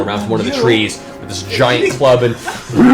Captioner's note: gasps